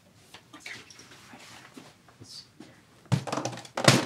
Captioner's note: whispers; thuds